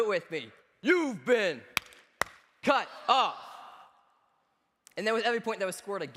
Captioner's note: claps